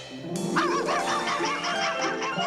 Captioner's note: max barking